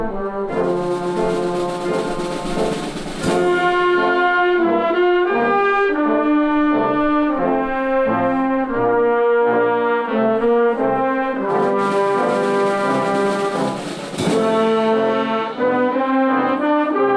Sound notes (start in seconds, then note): none